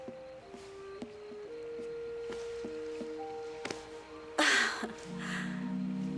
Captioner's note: exhales